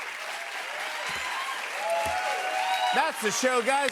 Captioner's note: cheers and applause